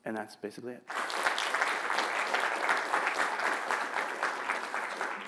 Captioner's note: applause